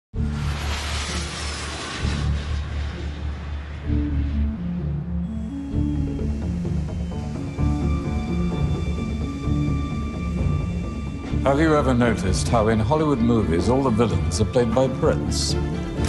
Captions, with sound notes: [ Aeroplane flying overhead ] [ Ominous music ] Have you ever noticed how in Hollywood movies all the villains are played by Brits?